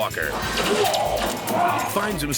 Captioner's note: walker grunts